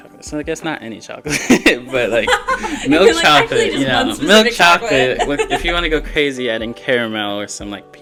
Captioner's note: laughter